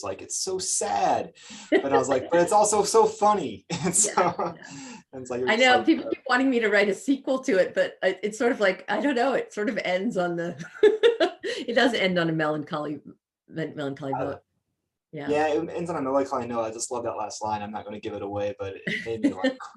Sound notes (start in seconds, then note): 1.3 laughs; 3.6 chuckles; 10.4 laughs